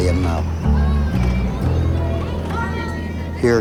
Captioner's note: children talking